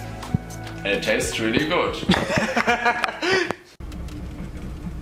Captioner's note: laughing